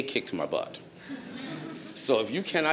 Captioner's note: audience laughs